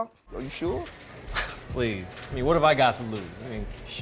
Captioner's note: scoffs